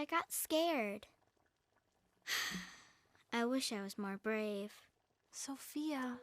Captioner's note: sighs